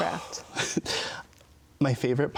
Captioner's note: sighs